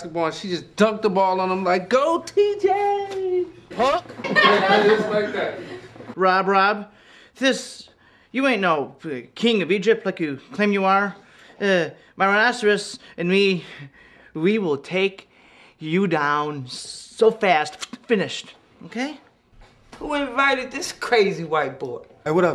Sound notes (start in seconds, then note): 3.8 laughing